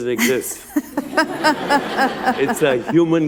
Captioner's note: laughter